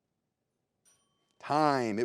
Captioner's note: bell rings